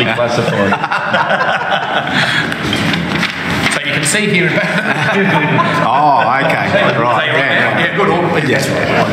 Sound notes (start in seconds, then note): 4.5 laughs